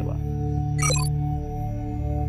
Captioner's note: computer beep